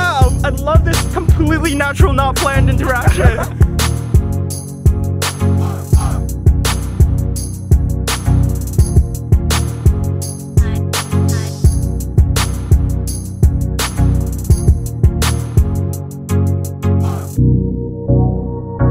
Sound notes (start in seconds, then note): 2.6 laughs; 4.2 electronic music